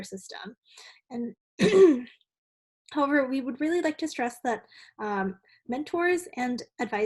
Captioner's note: cough